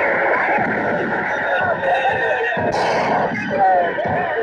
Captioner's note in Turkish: Silah sesleri, naralar, davul zurna